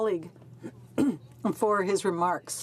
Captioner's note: speaking French